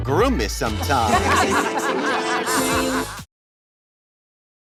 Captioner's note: laughter